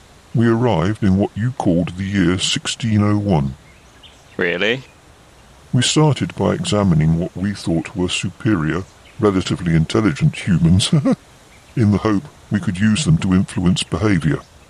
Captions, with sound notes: We arrived in what you called the year 1601 Really? We started by examining what we thought were superior... relatively intelligent, humans [laughs]... in the hope we could use them to influence behaviour